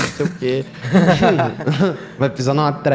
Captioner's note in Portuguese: Todos riem